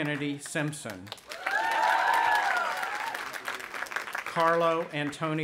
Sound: audience applauding and cheering

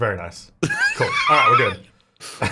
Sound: laughing

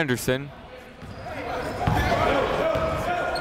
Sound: chatter

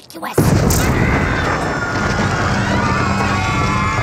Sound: screams; heavy footsteps advancing

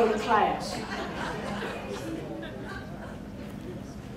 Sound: crowd laughing

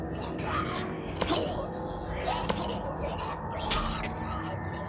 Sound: thudding and squelching; snaps

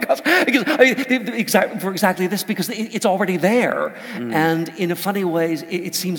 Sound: laugh

